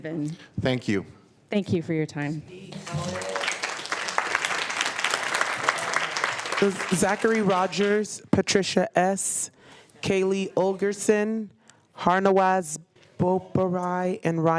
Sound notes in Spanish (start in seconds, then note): 2.7 aplausos